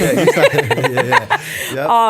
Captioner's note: chuckle